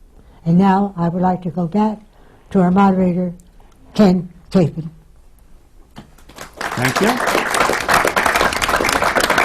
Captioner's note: applause